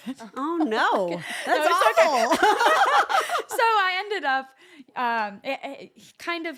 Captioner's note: laugh